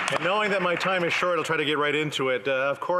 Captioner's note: some Applause